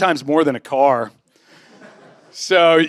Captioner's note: laughter